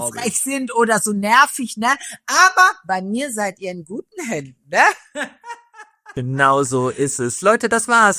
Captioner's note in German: gelächter